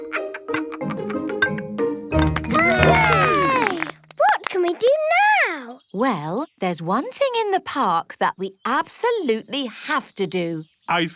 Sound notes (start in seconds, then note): 2.3 all cheer